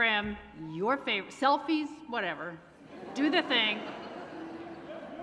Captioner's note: laughter